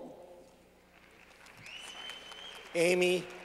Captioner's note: clapping